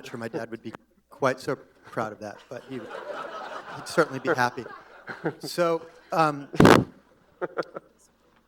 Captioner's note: laughter